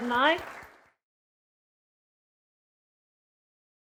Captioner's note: audience applauds